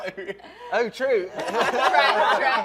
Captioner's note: laughter